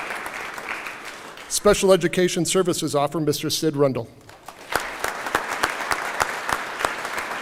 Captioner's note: applause